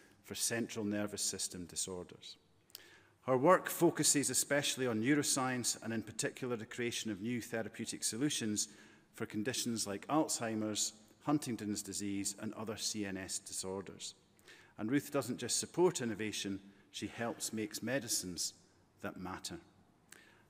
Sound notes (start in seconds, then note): none